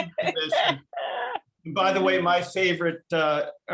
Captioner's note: chuckling